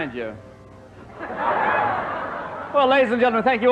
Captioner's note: audience laughs